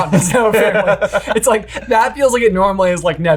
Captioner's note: chuckles